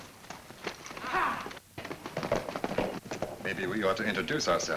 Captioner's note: men shout